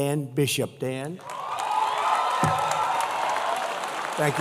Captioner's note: applause